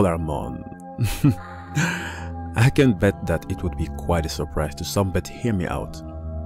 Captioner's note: laughs